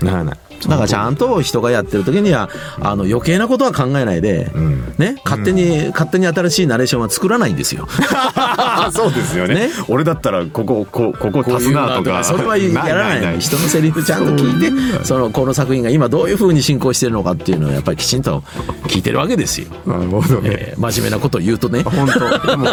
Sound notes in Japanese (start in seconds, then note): 7.8 笑い